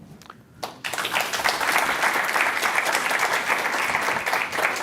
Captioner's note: applause